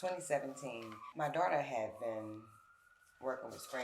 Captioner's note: sirens wailing